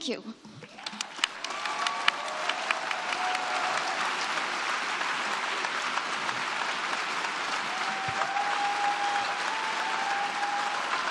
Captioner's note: applause